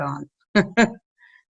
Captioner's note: laughing